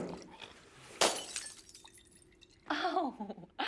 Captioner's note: glass shatters; chuckles